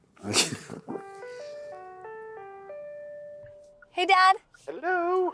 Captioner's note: William laughs; cell phone ringing